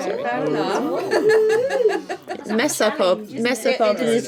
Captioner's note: laughing